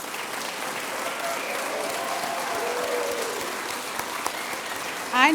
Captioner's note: applause & Cheers